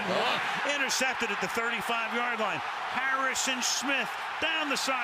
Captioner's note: cheering